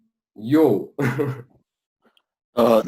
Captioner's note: laughs